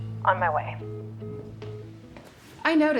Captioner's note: beeping; on phone